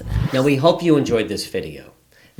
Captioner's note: wind whooshing